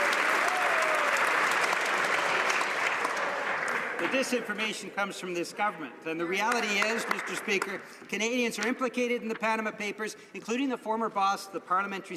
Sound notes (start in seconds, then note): 4.7 some Applause